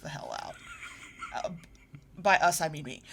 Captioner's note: snickers